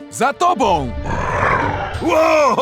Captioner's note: demonic noises